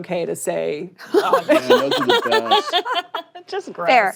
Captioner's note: laughter